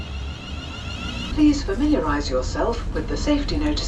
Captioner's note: train announcement